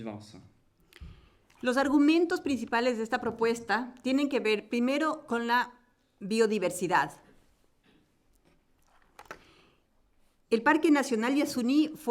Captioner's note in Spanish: Español